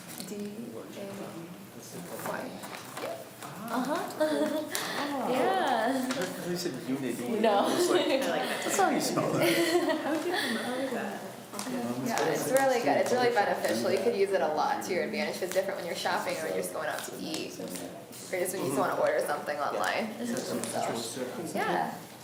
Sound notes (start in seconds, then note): 0.0 students talk quietly amongst selves; 6.8 students talk amongst selves